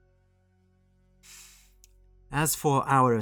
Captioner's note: deep Breath